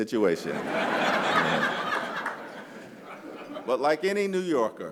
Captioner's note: laughter